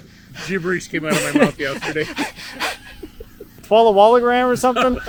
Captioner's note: laughs